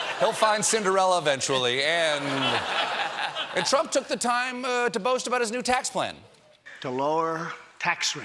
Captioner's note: laughter